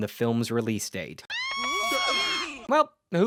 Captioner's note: screaming